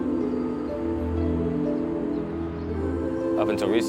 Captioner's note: birds chirping